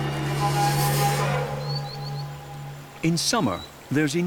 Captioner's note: birdsong